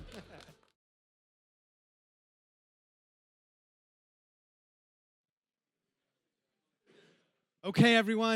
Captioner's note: laughs